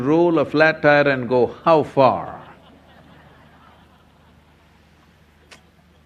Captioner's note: laughter